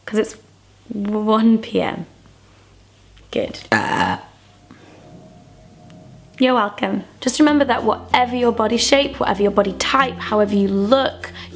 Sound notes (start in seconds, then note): 3.6 burps; 6.9 playful music